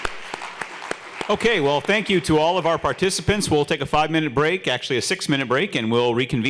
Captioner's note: applause